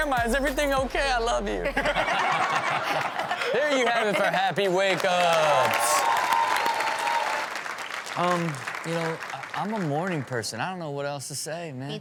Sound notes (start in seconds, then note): 1.6 audience laughs; 4.4 audience cheers